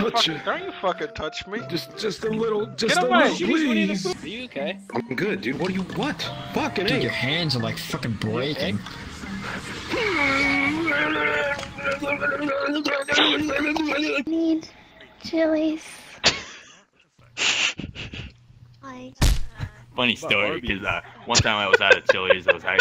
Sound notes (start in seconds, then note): 19.1 splat